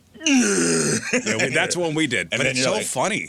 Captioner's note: grunts